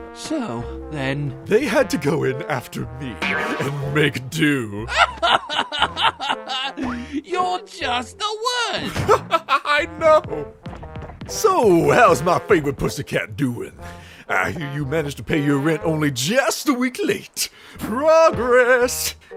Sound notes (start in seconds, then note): 5.9 laughs